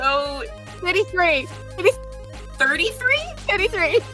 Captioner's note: giggles